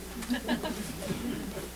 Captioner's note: laughter